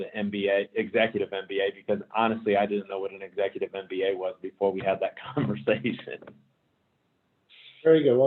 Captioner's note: laugh